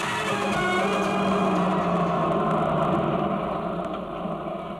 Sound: car approaching

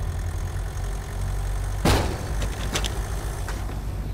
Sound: bang, clattering

